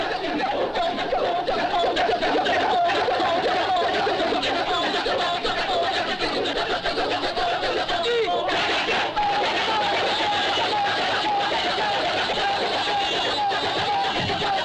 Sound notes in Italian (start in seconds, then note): 3.9 risate